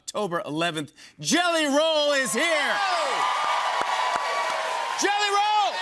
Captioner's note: cheers and applause